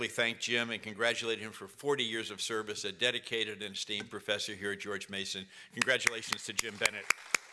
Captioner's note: applause